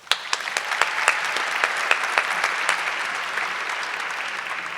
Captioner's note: audience cheering